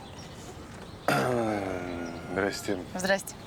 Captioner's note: clears throat